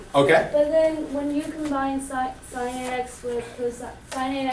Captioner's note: voiceover